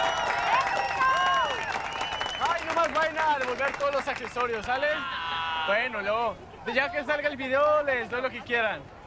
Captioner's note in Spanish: Aplausos